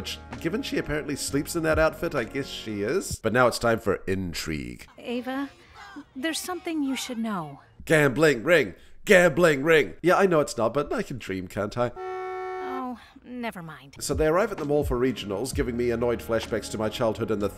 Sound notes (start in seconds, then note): 11.8 horn honking